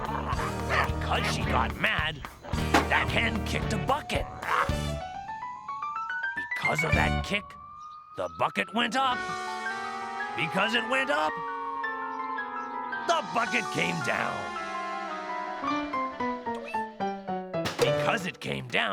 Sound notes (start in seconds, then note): 3.8 clucks angrily